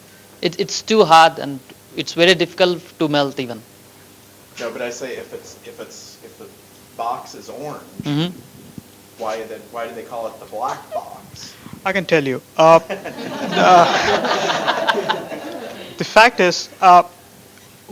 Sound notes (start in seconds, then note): 12.8 laughter